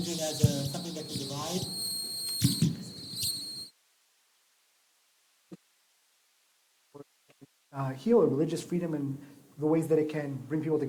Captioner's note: silence